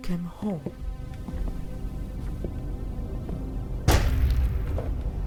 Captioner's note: footsteps approaching; loud bang